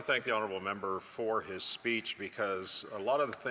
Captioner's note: speaking French